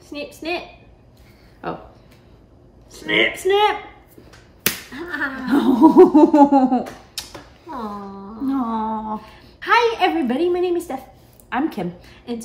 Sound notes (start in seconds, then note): 7.1 kiss noise